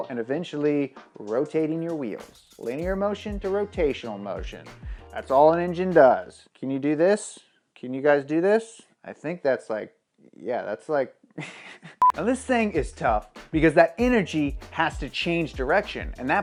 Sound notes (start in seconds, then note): 11.4 chuckles; 12.0 beep